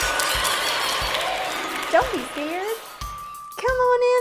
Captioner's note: applause